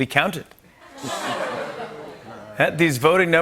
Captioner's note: laughter